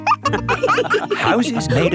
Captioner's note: wolves laughing